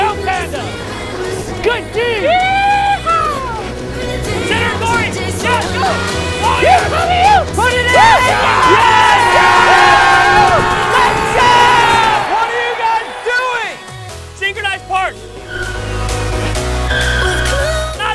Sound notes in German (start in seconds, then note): 12.4 schreie